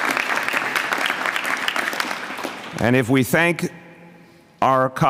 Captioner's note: applause